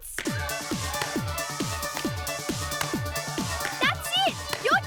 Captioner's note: upbeat music; shoes tapping